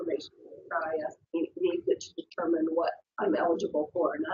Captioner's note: audio warps